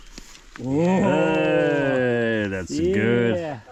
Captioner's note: group bellowing